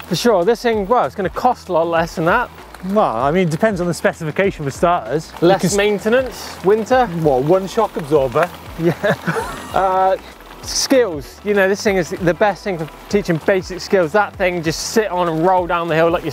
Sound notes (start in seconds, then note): 8.8 laughter